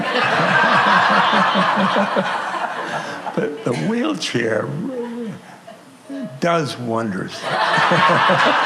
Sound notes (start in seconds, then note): 7.4 laughter